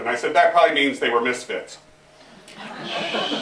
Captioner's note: laughter